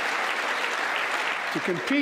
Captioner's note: applause